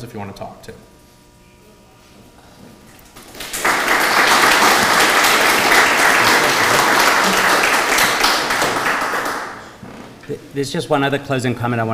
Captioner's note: applause